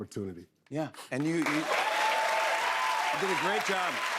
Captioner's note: cheers and applause